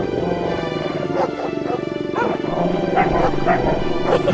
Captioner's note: wolves growling